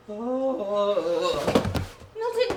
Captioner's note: thud